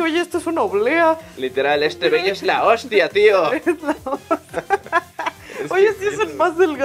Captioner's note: laughing